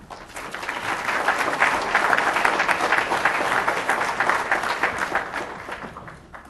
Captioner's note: applause